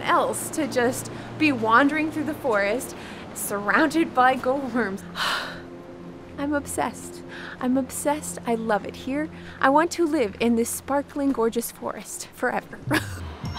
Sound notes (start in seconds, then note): 4.9 sighs happily